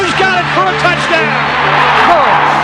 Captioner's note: crowd cheering